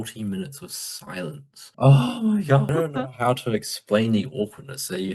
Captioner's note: sigggggh